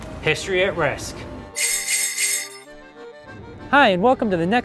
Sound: sleigh bells

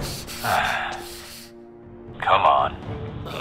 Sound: sigh

